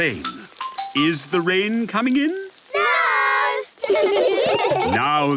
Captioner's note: laughter